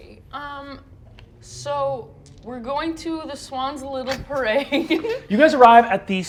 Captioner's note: laughs